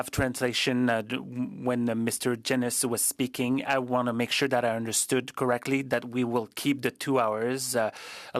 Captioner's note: speaking French